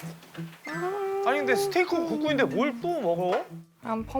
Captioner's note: humming upon the thought of eating